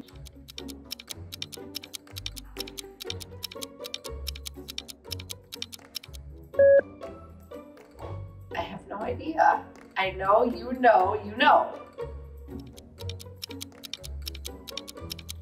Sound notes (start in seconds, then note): 0.0 clock ticking; 0.1 playful music continues; 6.6 beep; 12.6 clock ticking